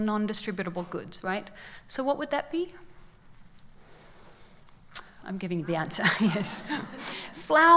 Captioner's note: laughs